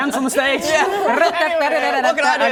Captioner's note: rrrrrratadadadadadaaada